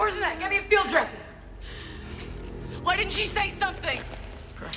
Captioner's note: gasping